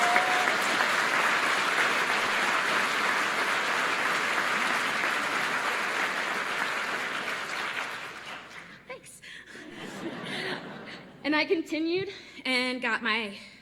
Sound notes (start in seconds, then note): 6.4 applause